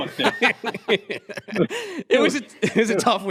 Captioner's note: laughter